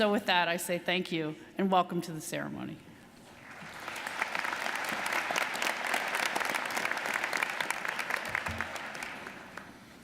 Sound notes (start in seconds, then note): 3.4 audience applauding